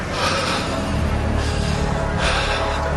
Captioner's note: Джони диша силно